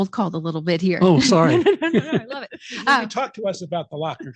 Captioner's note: laughing